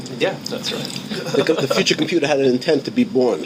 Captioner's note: laughing